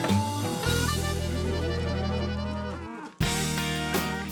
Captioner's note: mooing